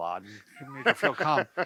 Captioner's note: men laughing